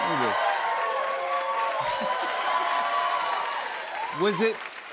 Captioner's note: cheers and applause